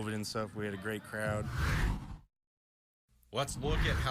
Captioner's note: air whooshes